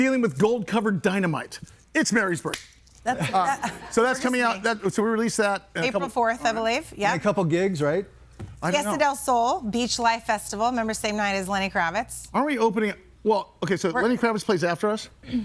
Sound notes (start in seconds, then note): 3.4 clapping